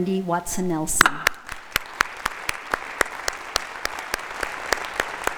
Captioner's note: audience applauding